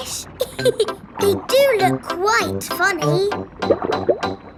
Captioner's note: laughs